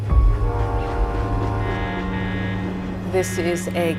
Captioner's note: distant train horn blows